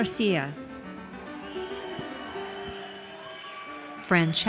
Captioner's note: audience cheers